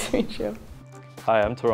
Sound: laughs

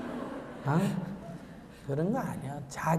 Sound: audience Laughter

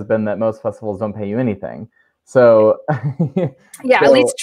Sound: laughs

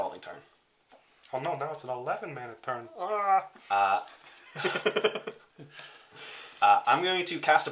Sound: As Ray Romano

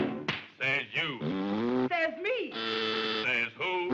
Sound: blows raspberry

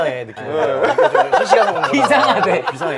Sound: laughing

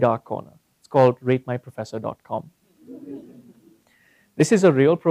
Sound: laugh

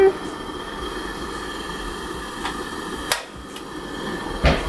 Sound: flame hissing

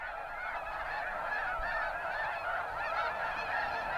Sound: swans honking

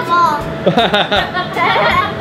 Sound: laughs

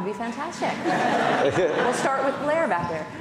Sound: audience laughing

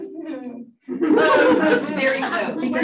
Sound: audience laughing

